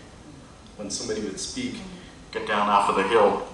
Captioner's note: mimicking radio sound